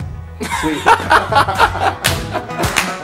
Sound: laughing

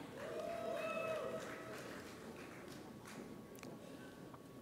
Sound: audience applauds

